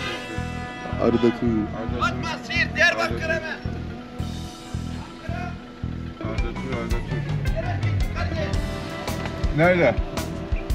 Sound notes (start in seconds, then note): 2.2 the guy is yelling outside